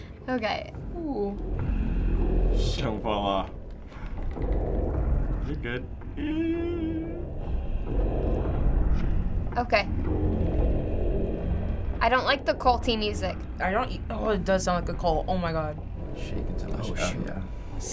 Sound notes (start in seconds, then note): 5.9 squealing anxiously; 7.4 eerie music